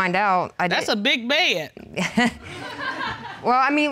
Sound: chuckling; audience laughs

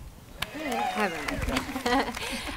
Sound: audience cheering

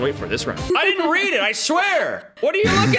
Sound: laughing

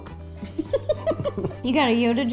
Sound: laughing

